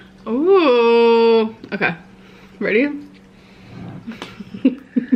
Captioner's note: laughing